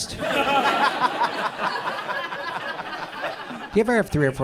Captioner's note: audience laughs